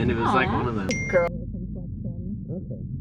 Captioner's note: phone dings